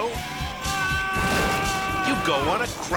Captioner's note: man yelling; fridge crashing